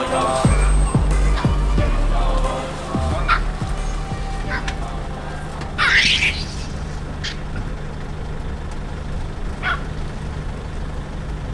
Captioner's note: monkey noises